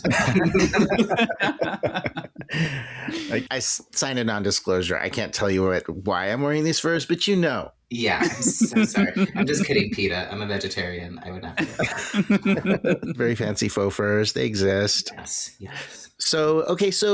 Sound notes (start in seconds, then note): 0.0 cracking up; 11.6 still laughing